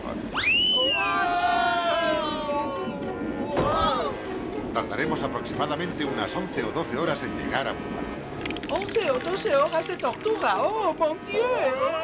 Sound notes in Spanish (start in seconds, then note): 0.3 gritan